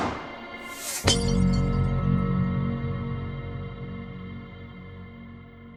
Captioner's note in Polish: odgłos rozbijanego szkła, gasnący, niski dźwiek fortepianu